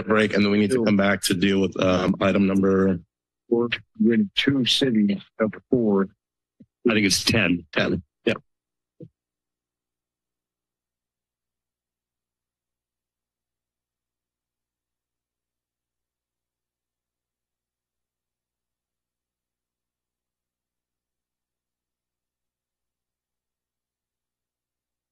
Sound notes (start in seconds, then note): 10.9 silence